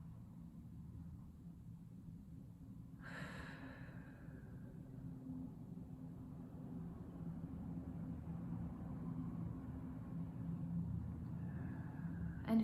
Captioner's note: breathing